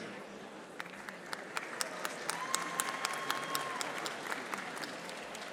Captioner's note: audience applauding